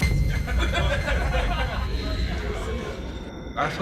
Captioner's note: laughter